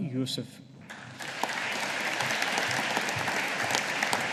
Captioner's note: audience applauding